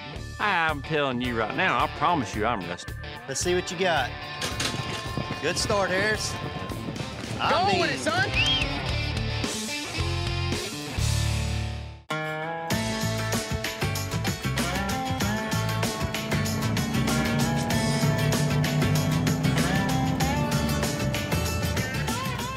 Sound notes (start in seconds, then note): 4.4 gate clangs open; 6.4 fast hoof beats; 8.2 whistles